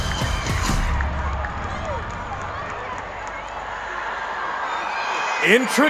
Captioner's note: crowd screaming and cheering